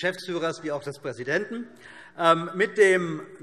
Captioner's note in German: Heiterkeit